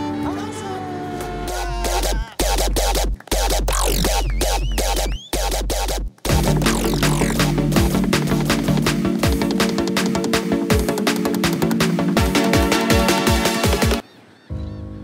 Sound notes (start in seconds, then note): 4.2 Whistling; 5.7 Clapping